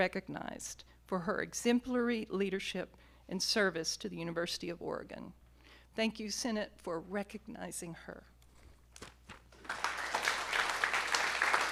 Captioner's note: applause